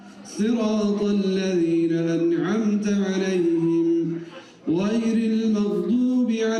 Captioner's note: reciting prayer in Arabic